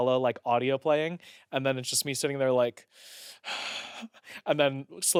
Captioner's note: sighs